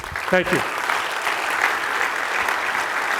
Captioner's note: audience applauds